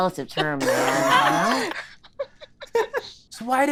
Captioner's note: laughing